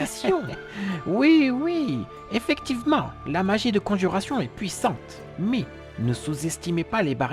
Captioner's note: laughs